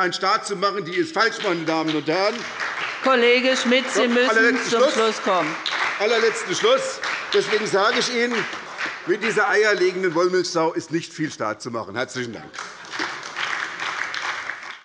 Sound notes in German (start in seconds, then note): 2.1 Beifall bei der SPD; 12.4 Beifall bei der SPD